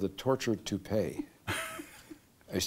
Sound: laughter

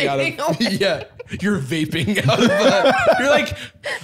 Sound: laughs

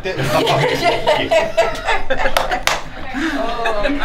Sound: group laughs

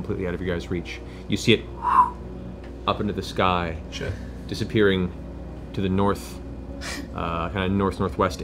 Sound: whoosh

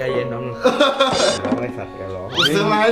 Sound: laughing

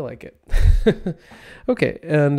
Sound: laughs

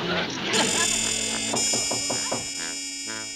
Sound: knocking on door

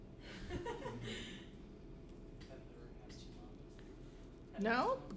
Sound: laughter & Inaudible Remark

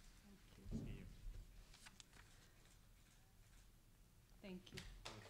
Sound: faintly speaking

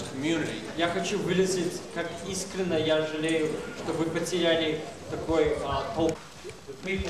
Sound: non-english speech

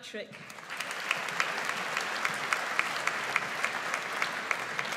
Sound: audience applauds

